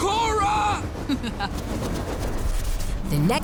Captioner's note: chuckles